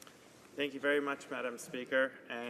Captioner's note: speaking French